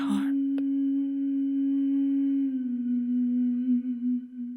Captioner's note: woman's ethereal humming